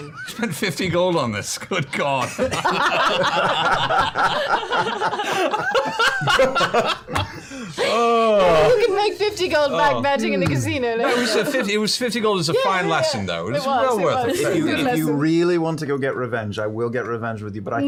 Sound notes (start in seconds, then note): 2.2 laughter